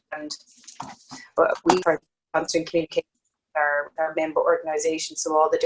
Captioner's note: audio distorts